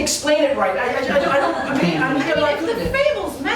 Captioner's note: stammers